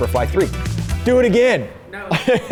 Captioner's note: laughs